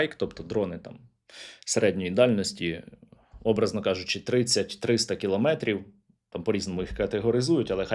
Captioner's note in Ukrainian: сопіння